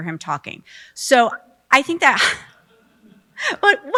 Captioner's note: laughs